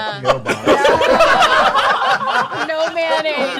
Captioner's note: laughter